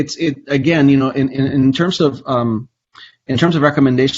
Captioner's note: stammers